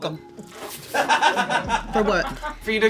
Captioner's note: crew laughs; spits